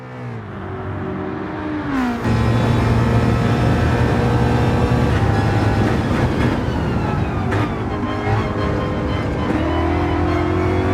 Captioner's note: engines revving, cars noises